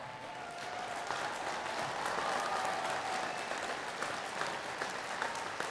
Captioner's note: attendees cheering and clapping